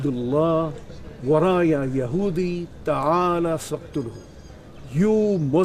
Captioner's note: speaking in Arabic